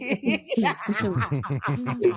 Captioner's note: laughing